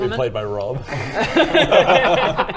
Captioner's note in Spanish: risas